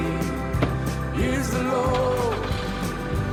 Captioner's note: starts car